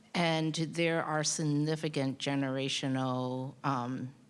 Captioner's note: none